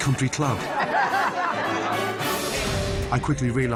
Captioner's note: all laughing